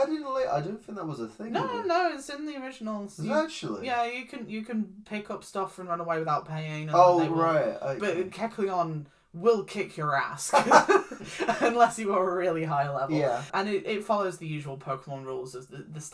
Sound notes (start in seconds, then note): 10.6 laughs